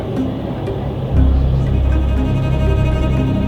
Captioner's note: ominous music; train sounds